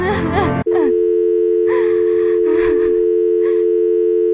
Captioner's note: phone drones